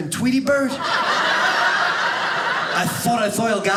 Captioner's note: audience laughing